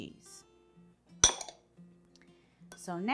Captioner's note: glass clinks